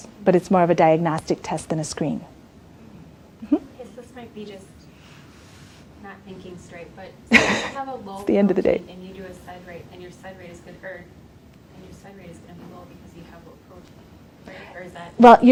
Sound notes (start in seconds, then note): 7.3 laughs